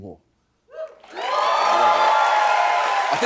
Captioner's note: cheers and applause